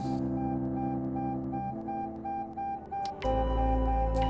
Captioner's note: heart monitor beeps